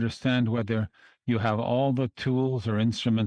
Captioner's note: speaking French